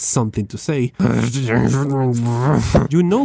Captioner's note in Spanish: sonidos de molestia